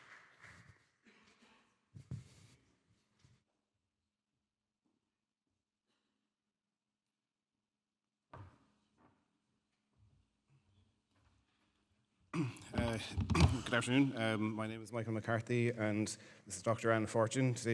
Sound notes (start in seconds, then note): 0.0 audience clapping; 3.5 clears throat